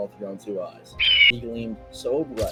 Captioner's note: majestical bird noises